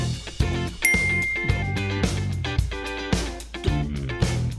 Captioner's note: bell tinkling